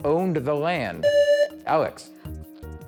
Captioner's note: buzzer